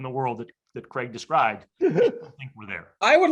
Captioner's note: laughs